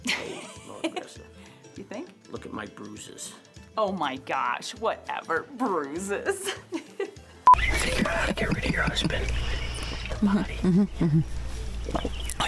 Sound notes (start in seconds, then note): 7.5 loud beeping; 7.6 laughs; 9.4 upbeat guitar music